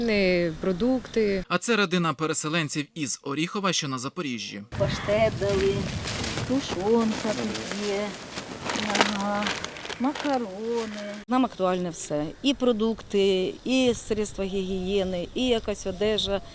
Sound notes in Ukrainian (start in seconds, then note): 5.0 Дивляться продукти. Шурхіт пакетів